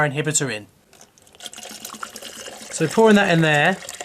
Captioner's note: glugging liquid